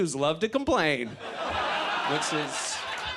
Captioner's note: audience laughs